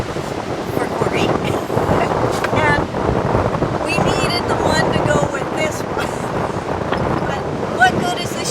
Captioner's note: struggles; laughs